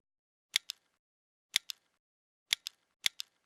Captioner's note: computer clicking